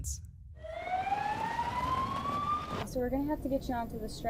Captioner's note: siren wailing